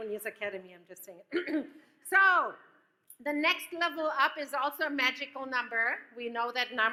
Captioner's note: coughs